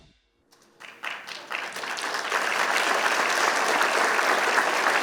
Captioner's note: applause